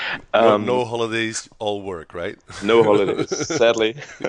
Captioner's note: laughs